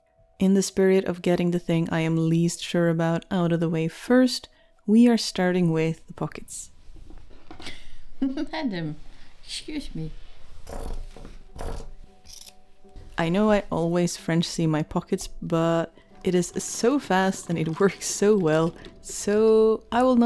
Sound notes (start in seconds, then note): 8.1 laughs; 10.6 scissors go cronch, cronch